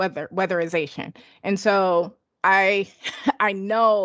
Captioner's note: laughs